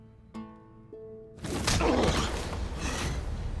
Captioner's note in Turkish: Yumruk atma sesi